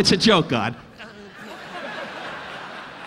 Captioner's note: Don groaning; audience laughing